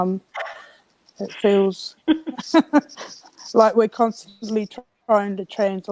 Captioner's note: chuckles